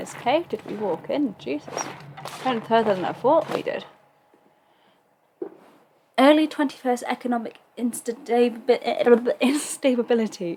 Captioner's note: words stumbling